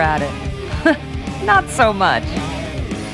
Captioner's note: laugh